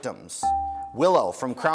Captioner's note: dinging